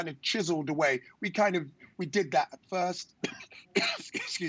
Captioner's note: coughs